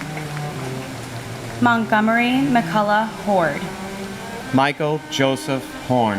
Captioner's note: applause